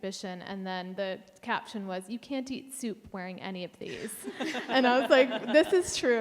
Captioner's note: panelists laugh